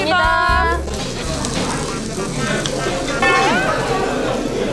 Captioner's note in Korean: 냠냠 쩝쩝